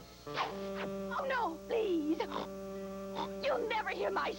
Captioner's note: snorts